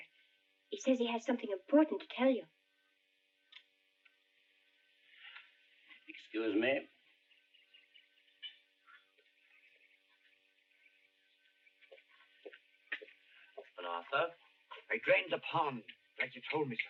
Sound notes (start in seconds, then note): none